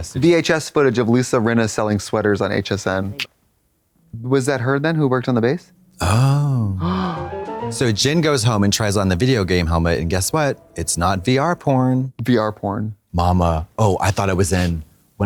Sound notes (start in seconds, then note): 6.4 Trixie heaves; 7.3 bright chime